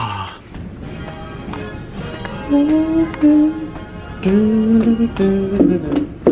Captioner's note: bright music; hums